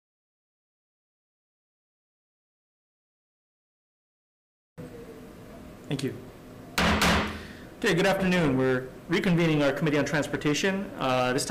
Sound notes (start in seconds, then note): 6.8 hammer thudding